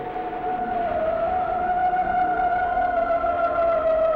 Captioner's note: siren wailing